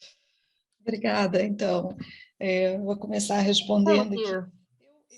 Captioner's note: speaking in foreign language